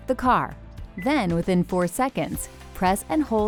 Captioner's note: car beeping